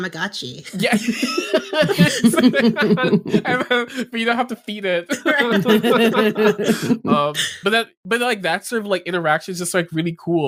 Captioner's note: laughs